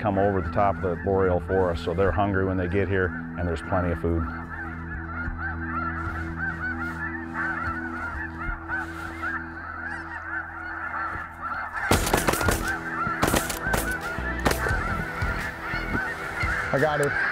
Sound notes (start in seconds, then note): 4.7 goose calls; 11.8 gun shots